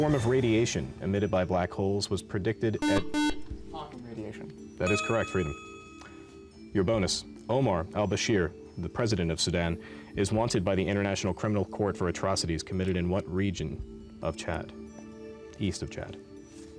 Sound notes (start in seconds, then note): 2.8 buzzer